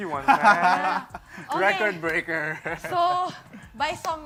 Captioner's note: laughs